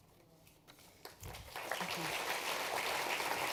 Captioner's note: applause